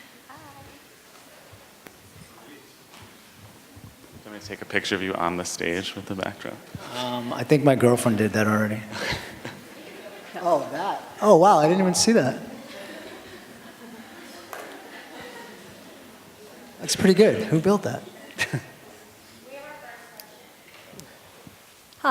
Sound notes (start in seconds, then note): 8.9 laughter; 18.2 laughter